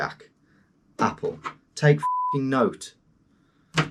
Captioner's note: beep